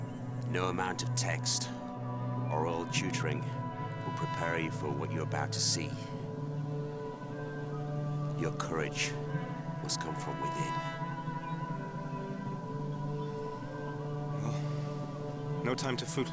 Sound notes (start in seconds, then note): none